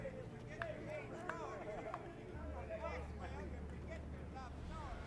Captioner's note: prisoners indistinctly talking